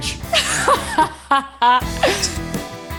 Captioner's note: laughs